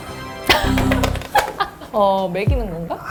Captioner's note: shuts